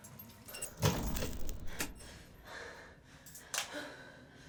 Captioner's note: lights arcing